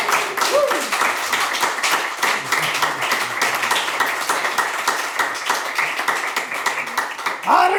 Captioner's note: audience applauds